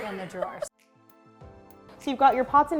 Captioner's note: laughs